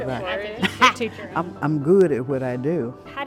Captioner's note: laughter